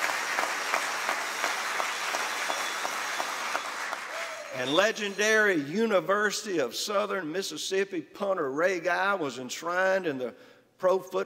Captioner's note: applause